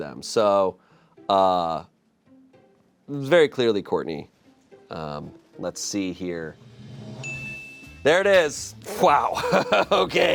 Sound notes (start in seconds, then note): 6.4 drum roll hisses; 7.2 bell chimes